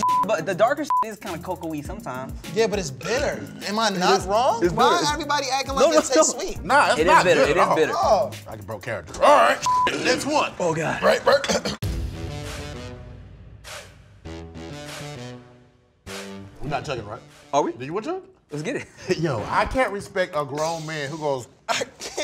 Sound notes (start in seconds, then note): 9.2 burps; 11.2 upbeat music